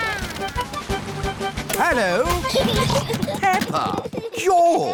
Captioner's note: children giggling